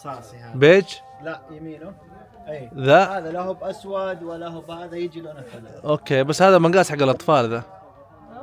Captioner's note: Arabic